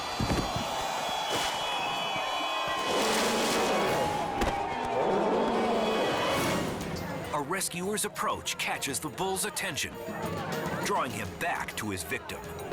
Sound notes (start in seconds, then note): 0.0 blow thumps; 0.3 body thuds; 3.2 bull snarls